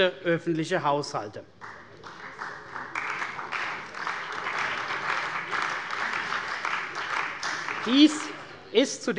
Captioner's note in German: Beifall bei der CDU und dem BÜNDNIS 90/DIE GRÜNEN